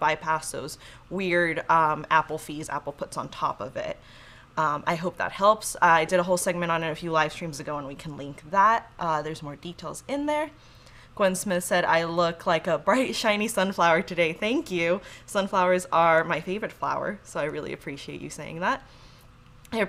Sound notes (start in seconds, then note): none